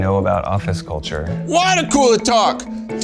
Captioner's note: in puppet voice